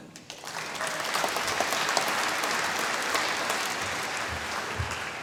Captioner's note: applause